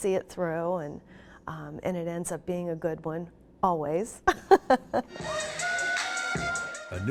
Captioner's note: laughing